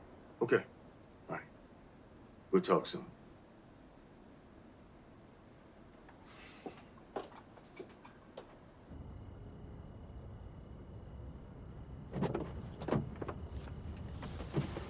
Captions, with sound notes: Okay. All right, we'll talk soon. (Footsteps shuffle) (Crickets chirp) (Door opens)